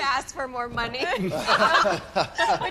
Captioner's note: all laughing